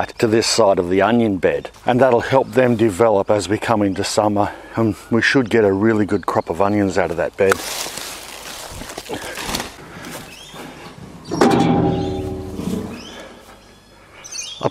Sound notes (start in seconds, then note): 6.8 foliage rustles; 11.2 chipper clangs